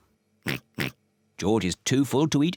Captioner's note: oinking